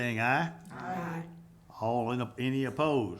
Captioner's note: group chanting